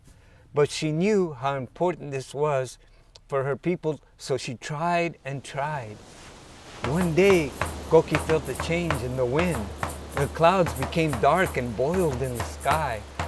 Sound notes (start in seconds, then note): 5.2 waves crashing; 6.8 drumming music begins